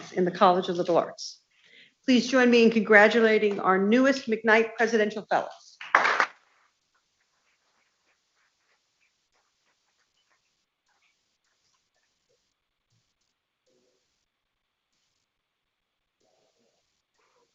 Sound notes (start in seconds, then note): 5.8 people clapping